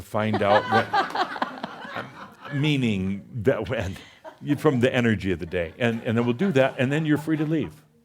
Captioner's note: laughter